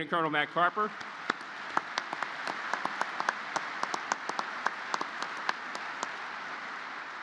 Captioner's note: applause